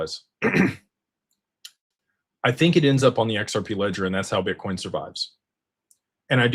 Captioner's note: clears throat